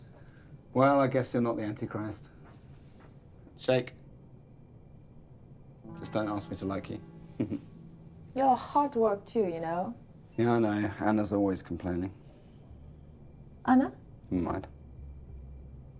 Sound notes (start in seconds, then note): 7.4 chuckling